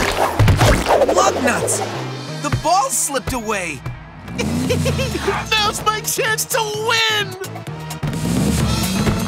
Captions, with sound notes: Lug nuts! The ball slipped away! [laughs] Now's my chance to win!